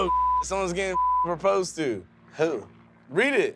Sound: beep

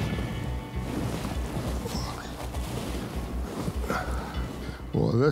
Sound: grunting

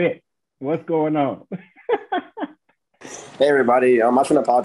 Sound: laughs

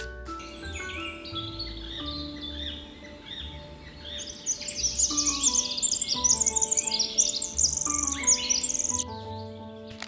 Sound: birds chirping

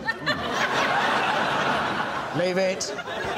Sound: laughter

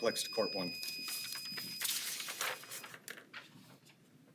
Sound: timer beeps

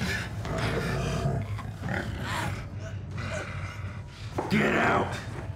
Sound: panting; growling, choking

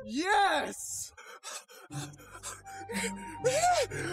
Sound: panting

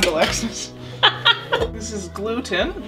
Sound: laughter

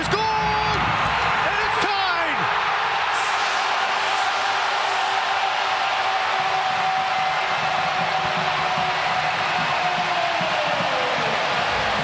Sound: cheering and Applause

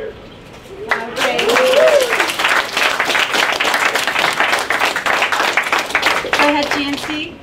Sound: applauding

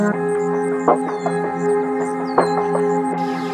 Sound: birds chirping

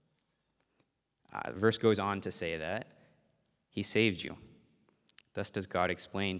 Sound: none

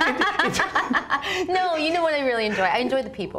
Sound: laughs

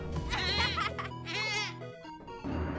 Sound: panicked bleating

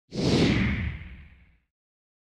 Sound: whoosh

